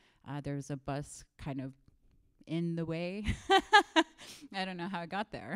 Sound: laughs

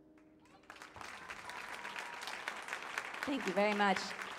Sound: audience applauds

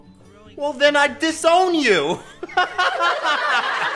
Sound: laughs

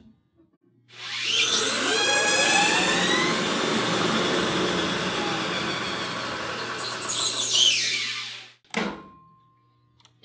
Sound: machine noises

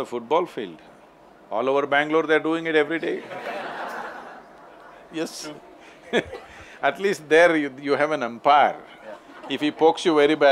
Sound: laughter

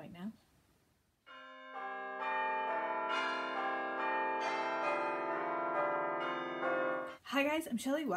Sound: bells Tolling

